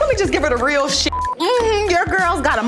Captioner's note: beep